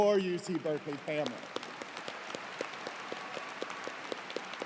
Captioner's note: cheers and applause